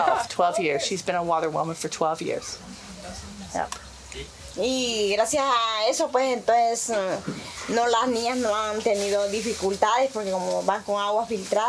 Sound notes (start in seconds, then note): 4.6 speaking foreign language